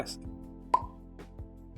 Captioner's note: pop